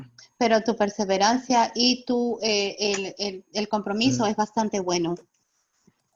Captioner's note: speaking in foreign language